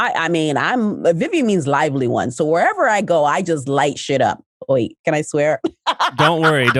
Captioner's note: laughs